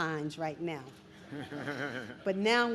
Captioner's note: chuckles